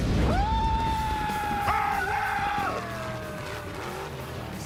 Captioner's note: screaming